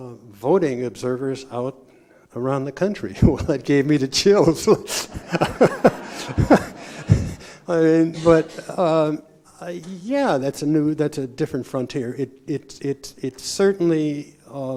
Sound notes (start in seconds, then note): 4.9 laughter